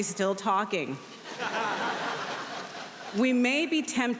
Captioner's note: audience laughing